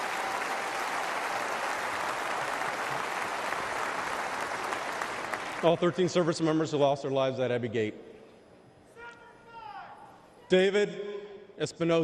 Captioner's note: applause